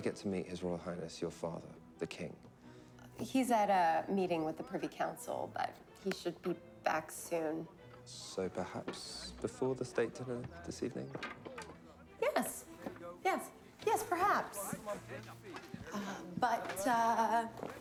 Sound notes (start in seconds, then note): 11.0 wood clattering; 15.9 distant chatter